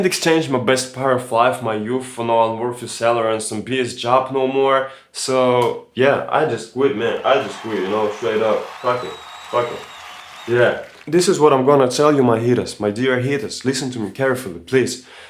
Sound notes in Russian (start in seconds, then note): 10.0 аплодисменты